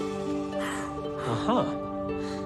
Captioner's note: gasps